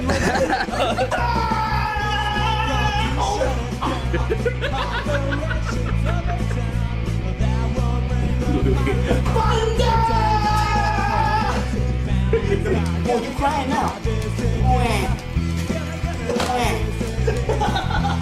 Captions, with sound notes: [laughter] [loud shouting] [laughter] [laughter] Thunder!! You crying. Now "Wah" [laughter]